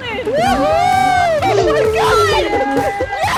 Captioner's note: clapping